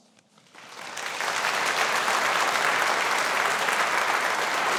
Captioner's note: audience applauding